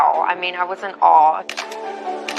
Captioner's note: camera shshutter clclick